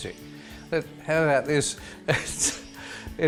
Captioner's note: laughing